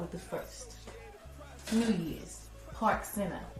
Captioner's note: voiceover